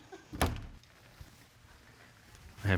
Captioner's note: door opens